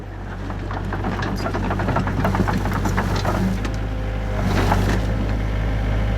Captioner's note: machine sounds